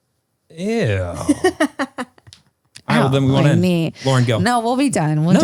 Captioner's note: laughs